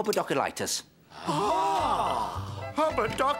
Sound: gasps

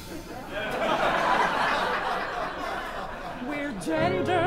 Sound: laughter

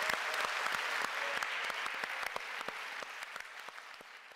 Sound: audience applauding

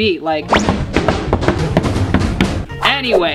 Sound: drumming on desk

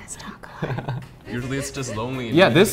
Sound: laughs

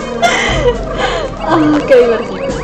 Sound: laughs; sigh

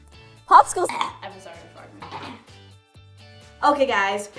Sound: coughing; clearing throat

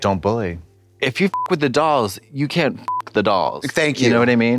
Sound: beep

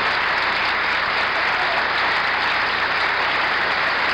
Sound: applause continues

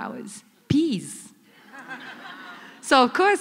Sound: laughter

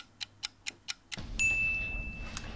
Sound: ding

